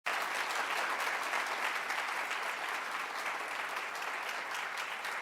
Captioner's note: applause